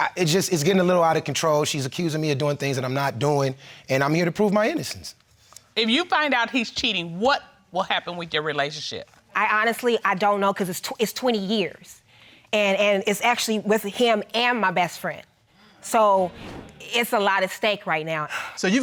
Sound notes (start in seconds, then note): none